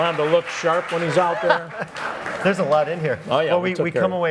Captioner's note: laughs